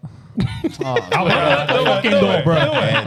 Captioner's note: laughing